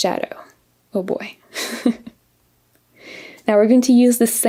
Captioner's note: laughs